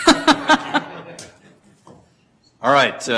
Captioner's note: laughter